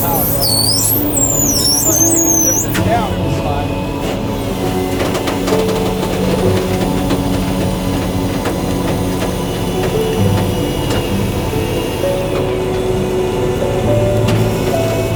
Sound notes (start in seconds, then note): 3.3 somber instrumental music continues; 5.4 vehicle creaking; 8.0 flatbed whirring